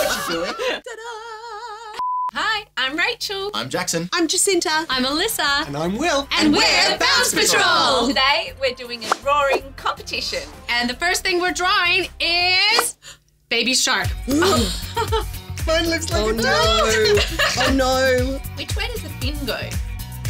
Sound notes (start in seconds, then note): 1.9 broadcast beep; 6.6 group In Unison; 13.4 bubble popping; 14.3 laughing; 16.5 laughing